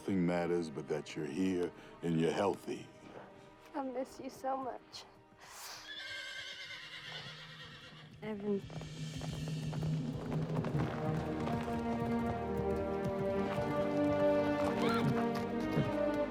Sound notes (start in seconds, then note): 5.6 horse neighing; 9.8 uplifting music